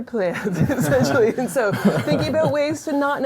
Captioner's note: laughter